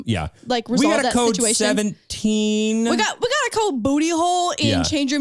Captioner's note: none